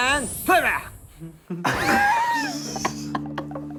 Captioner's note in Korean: 웃음